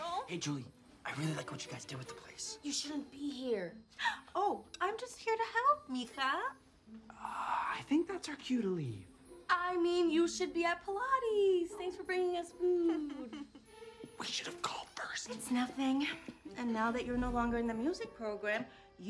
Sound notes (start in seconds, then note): 3.6 aunt gasps; 12.8 chuckles